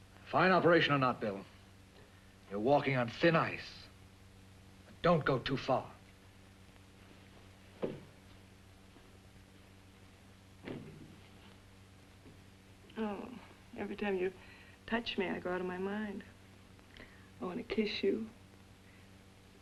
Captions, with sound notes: Fine operation or not, Bill... you're walking on thin ice. Don't go too far. (door opens) (door closes) - Oh...every time you touch me, I go out of my mind. I want to kiss you.